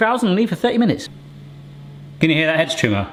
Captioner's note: faint hum